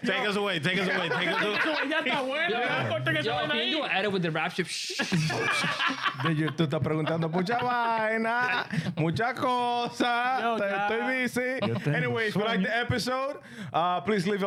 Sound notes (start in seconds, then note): 3.6 speaking In Foreign Language; 4.8 laughing; 5.7 speaking In Foreign Language